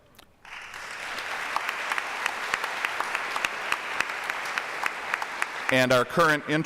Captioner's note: applause